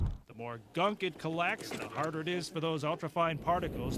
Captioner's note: voiceover